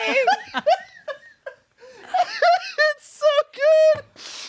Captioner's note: everyone laughs